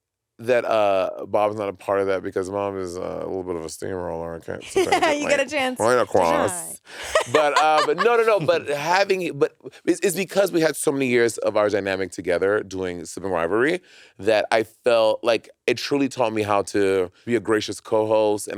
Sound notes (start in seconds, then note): 4.6 laughing; 7.0 chuckling; 7.0 laughing